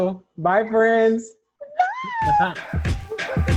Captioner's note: both laugh